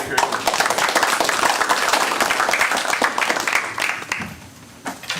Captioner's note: applause